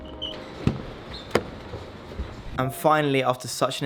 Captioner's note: wheels squeaking; door clicks